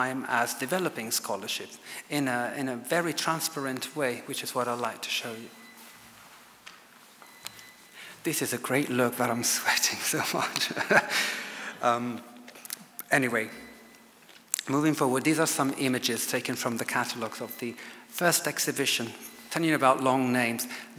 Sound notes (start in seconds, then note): 10.2 laughs